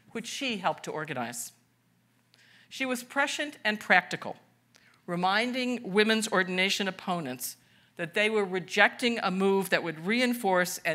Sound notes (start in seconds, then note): none